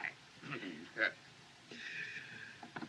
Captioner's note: chuckles